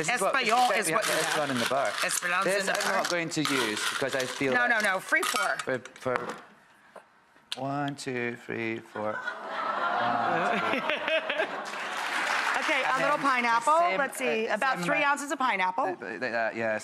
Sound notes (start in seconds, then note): 9.0 laughing and applause; 12.5 laughs